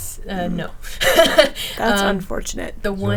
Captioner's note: laughing